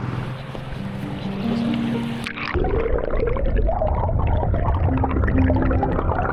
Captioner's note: tender music; water gurgling